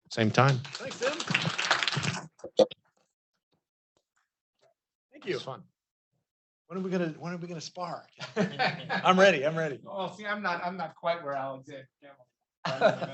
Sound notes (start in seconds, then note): 0.2 students applauding; 8.2 laughing; 12.6 laughing